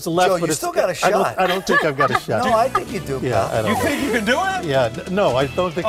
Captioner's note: laughter